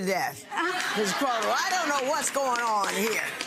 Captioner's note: audience laughs